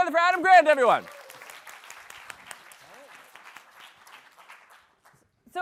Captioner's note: applause